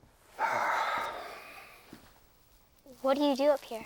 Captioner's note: Hatcher sighs